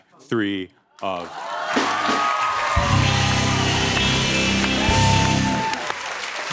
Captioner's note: cheers and applause